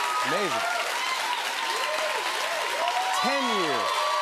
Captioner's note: cheers and applause